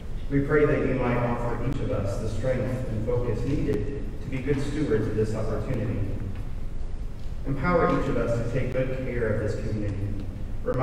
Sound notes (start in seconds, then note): none